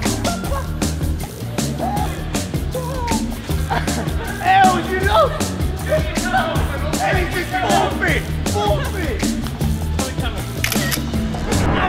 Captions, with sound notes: (laughing) - (laughing) El, you lost! Ellis just forfeit, forfeit! (energetic music)